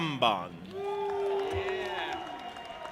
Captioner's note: audience applauding and cheering